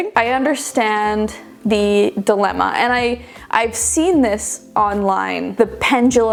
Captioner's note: none